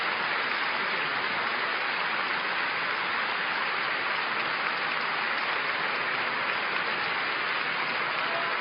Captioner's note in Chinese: 掌聲